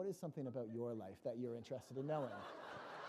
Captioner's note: laughter